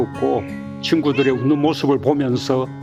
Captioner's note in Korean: 고양이 울음